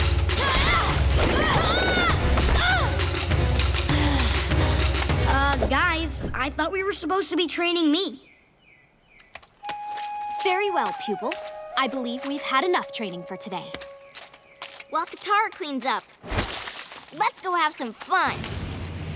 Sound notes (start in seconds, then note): 0.3 grunting; 3.8 panting